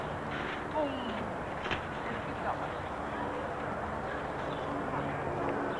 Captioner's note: ambient park noise